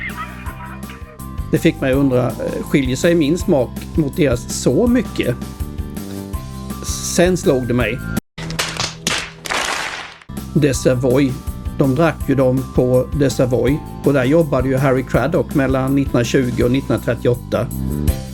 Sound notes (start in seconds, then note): 8.5 applause